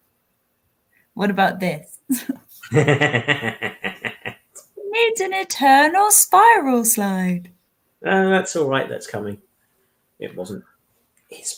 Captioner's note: whispers